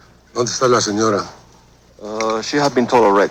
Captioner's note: speaking foreign language